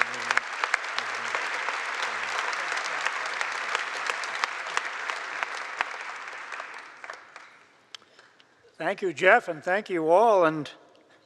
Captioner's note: applause